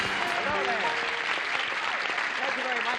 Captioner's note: applause